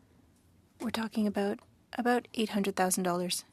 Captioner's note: speaking French